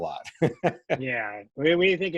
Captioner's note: chuckling